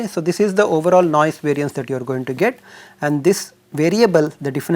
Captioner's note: thermal noise